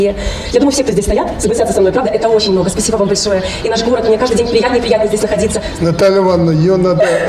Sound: buttering up in Belarusian

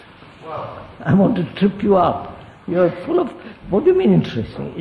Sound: laughs

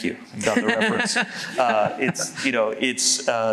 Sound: laughs

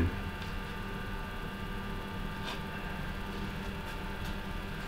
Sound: soft buzzing

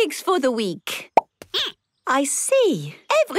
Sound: squeaking

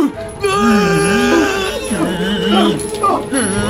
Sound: screaming

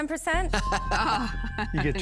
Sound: laughs

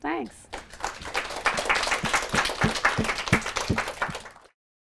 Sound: audience applauds

